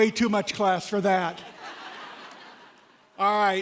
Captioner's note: laughter